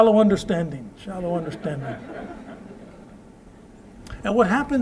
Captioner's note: laughter